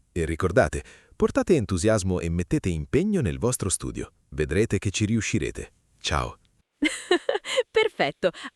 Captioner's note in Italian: risate